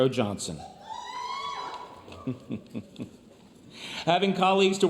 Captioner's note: laughs